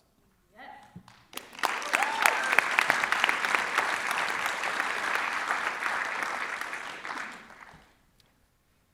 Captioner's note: cheering and Applause